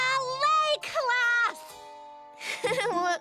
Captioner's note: giggling